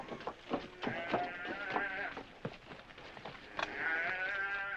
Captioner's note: cattle bellowing